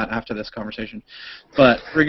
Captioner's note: laughter